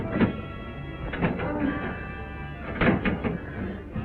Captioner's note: moaning